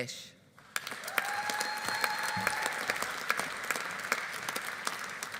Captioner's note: audience applauding; audience cheering